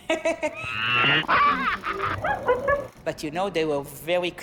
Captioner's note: laughing; monkeys laughing